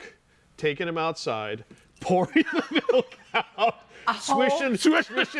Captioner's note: laughing